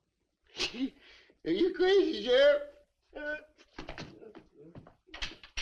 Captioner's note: scoffs